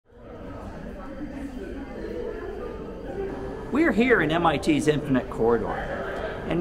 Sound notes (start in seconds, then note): 0.1 chatter